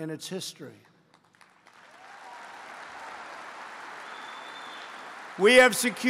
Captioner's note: applause